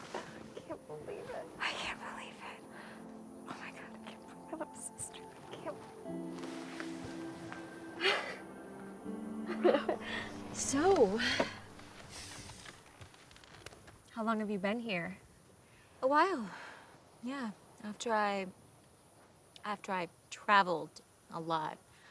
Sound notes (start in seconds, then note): 7.4 Sharon laughs; 10.9 sighs